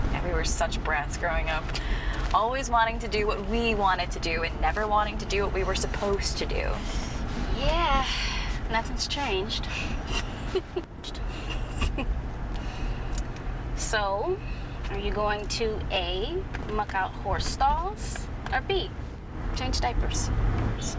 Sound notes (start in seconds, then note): 11.0 chuckle; 11.2 laughter